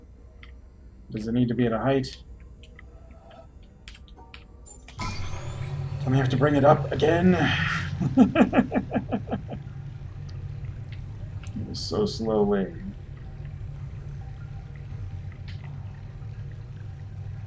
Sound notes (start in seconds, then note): 8.0 chuckles